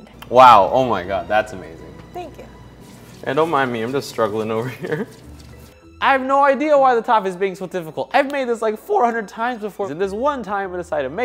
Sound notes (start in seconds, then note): 4.6 laughs; 8.2 hands slap